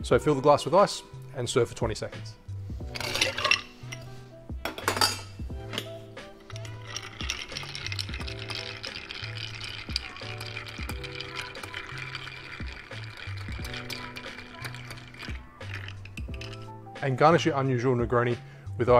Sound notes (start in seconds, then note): 3.0 ice rattling